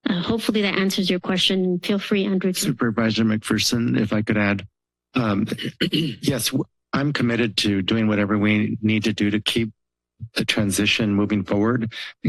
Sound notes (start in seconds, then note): 5.1 clears throat